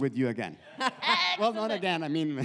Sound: laughs

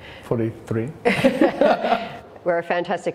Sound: laughter

